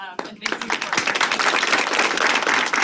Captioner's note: applause